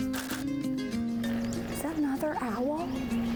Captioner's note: camera clicking